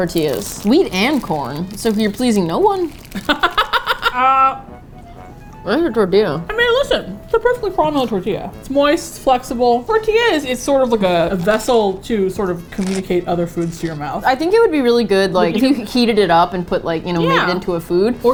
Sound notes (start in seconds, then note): 3.1 laughs